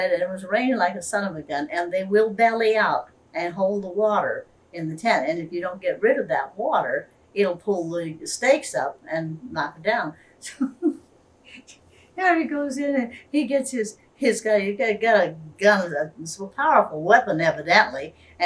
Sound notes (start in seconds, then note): 11.5 laughs